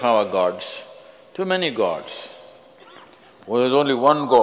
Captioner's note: in mocking voice; 用嘲弄的聲音